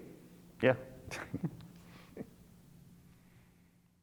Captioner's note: laughs